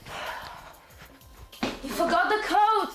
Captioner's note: sighing